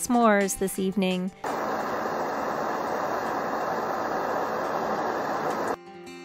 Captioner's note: sound of gas stove